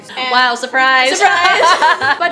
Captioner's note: both laugh